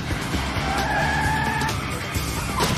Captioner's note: neighing